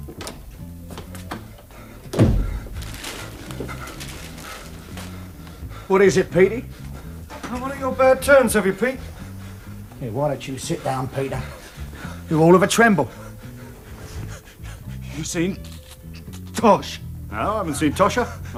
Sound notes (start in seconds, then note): 1.1 stressed breathing; 16.4 stammers